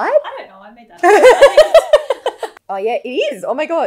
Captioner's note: laughs